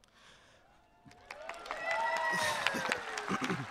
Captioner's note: audience cheering